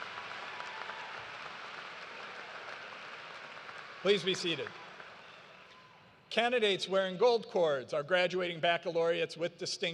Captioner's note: cheers and applause